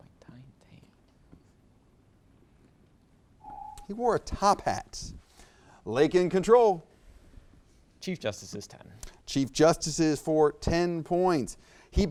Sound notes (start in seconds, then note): 3.4 alarm echoes